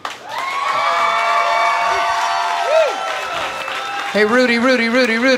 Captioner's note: applause and cheers